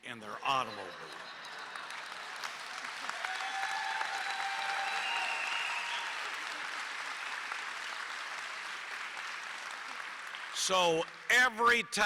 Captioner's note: applause